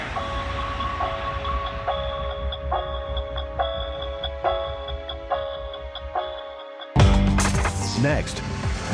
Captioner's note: crowd cheers